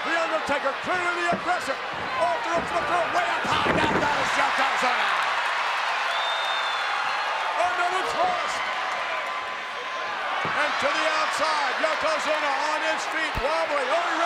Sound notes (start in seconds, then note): 5.3 audience cheers